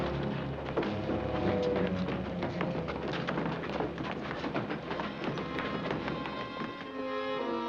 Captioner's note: dramatic music; scrambling footsteps; somber music